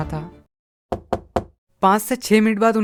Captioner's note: door knocking